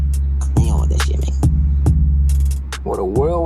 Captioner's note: disappointed gibberish